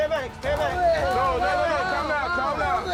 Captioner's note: yelling